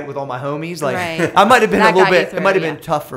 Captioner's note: laughter